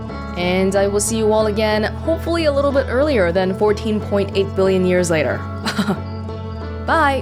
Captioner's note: chuckle